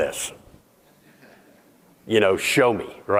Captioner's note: audience laughing